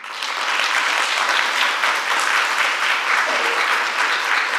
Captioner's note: audience applauding